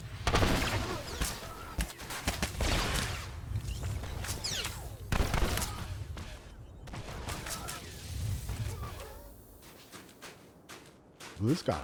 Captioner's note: gunshots